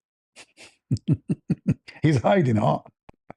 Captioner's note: ketawa